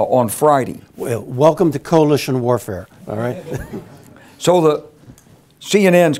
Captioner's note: laugh